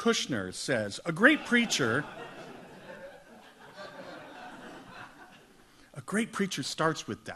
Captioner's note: audience laughs